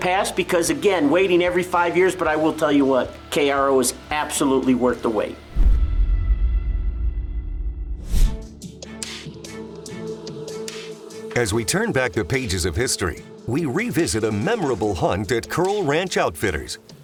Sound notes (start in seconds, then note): 5.5 logo thuds; 8.7 suspenseful music